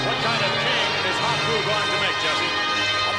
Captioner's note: Vince laughs